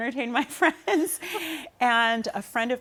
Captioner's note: laughter